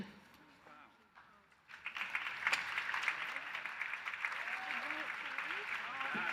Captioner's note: applause